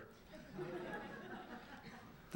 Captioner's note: laughter